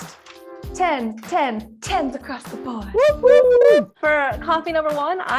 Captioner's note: people cheering